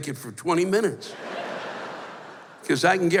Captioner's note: laughter